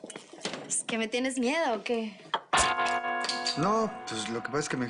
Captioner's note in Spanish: Ruido al abrir botellas